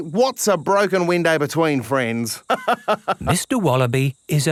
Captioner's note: laughs